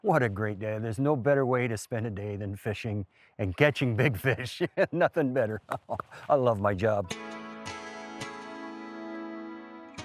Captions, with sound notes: What a great day. There's no better way to spend a day than fishing and catching big fish. (laughs) Nothing better. I love my job. (peaceful music)